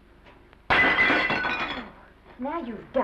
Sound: plate breaks

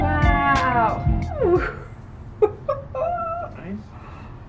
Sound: laughs

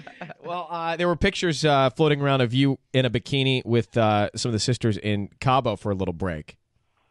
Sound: laughs

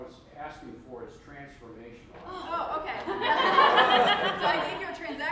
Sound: laughs

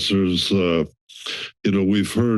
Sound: inhales

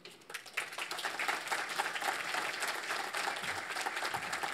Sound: audience applauds

